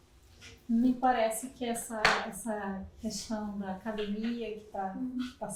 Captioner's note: speaking portuguese